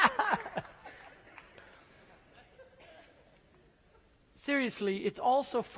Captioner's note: applause